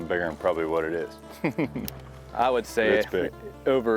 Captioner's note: laughs